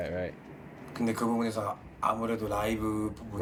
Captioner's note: speaking in foreign language